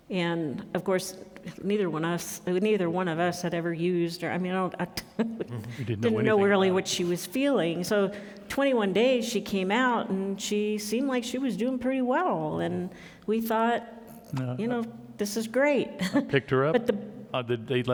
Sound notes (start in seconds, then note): 5.3 laughing; 16.0 chuckles